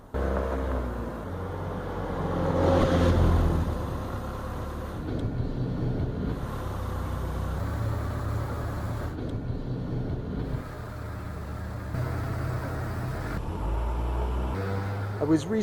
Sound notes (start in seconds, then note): 0.3 car Engine; 3.3 tires on pavement/Engine Hum